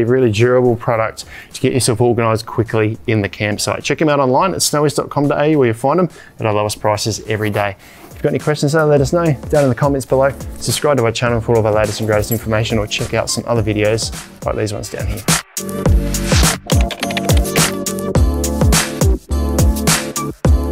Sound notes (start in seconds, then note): 15.7 upbeat music; 16.4 keyboard clunking; 18.1 upbeat music